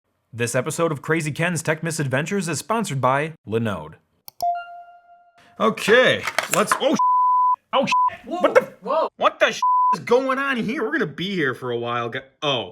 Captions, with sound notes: - This episode of Krazy Ken's Tech Misadventures is sponsored by Linode. - Okay, let's holly (beep ) what the (beep) is going on here? We're gonna be here for a while--